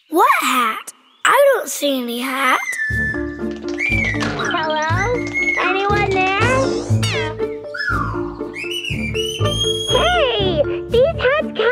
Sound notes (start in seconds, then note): 8.3 whistling